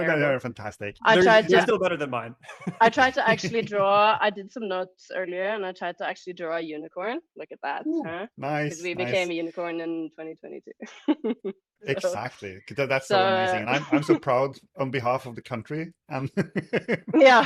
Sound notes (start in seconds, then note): 0.8 laughing; 0.8 laughs; 8.4 laughs; 11.9 laughs; 12.8 laughing; 16.1 laughs